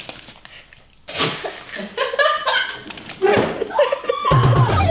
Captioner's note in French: Rire général